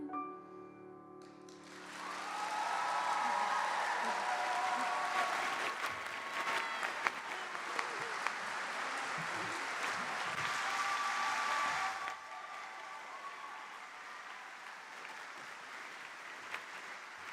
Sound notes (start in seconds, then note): 1.4 applause